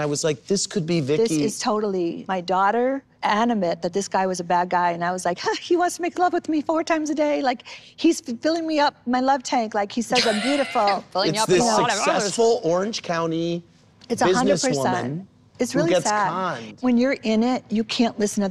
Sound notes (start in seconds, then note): 10.2 laughs, indistinct